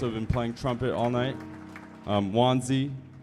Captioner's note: audience applauding